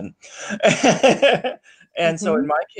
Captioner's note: laughs